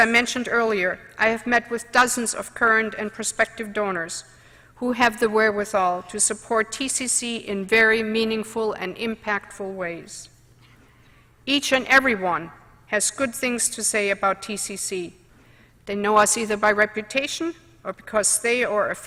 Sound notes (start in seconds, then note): none